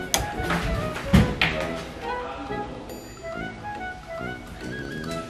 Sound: door slams

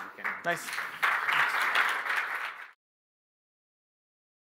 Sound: applause

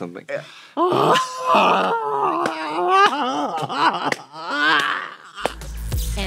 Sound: Trixie groans and hollers; Katya laughs and slaps; upbeat music

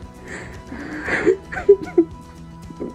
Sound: crying

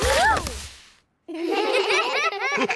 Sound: all giggle

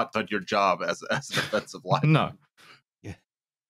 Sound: laughs

